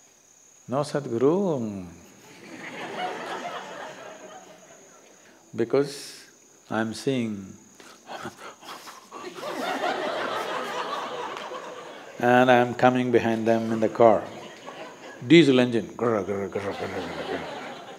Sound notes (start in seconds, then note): 2.2 laughter